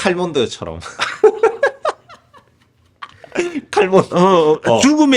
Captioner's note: laughs